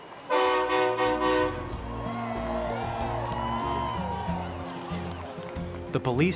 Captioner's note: people cheering; horn honking